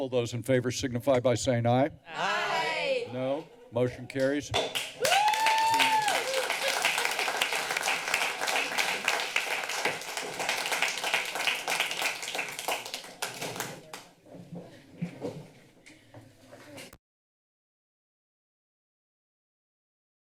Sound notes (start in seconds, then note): 4.6 applause; 4.8 cheers